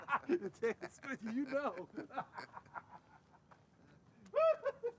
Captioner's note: Kane laughing; laughing; Kane laughing